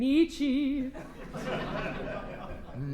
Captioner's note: laughter